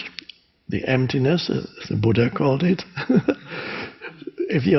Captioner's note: laughs